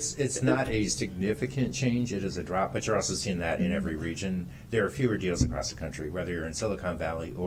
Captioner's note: laughter